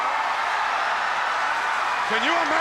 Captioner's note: crowd cheering